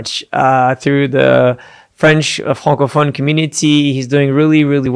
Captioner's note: foreign language